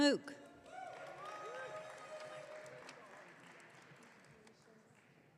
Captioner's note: audience cheering